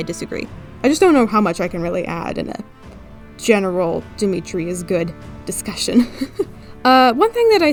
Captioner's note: laughs